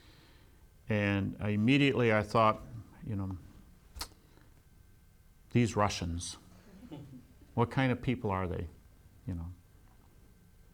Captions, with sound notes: immediately I thought "These Russians." (laughs) What kind of people are they,?